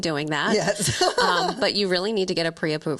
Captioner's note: laughing